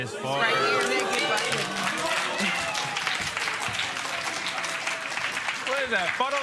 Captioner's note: applause